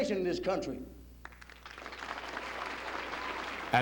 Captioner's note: applause